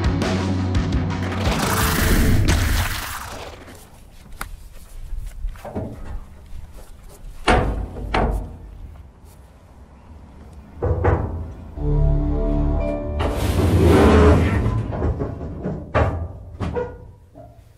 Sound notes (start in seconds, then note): 5.8 knocks on container door; 14.9 dramatic music